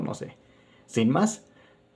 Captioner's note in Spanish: Silencio